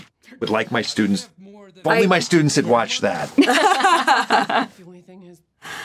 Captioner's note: all laughing